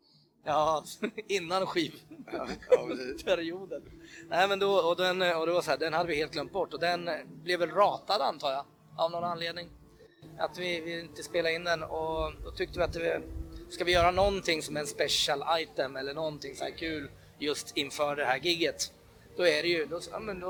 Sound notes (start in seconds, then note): 0.8 chuckles